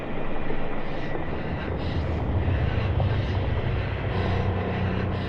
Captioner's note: Ura breaths abnormally